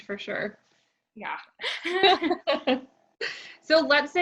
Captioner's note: laugh